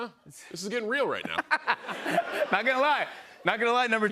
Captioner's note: laughter